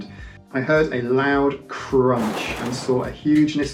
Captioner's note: crunching sound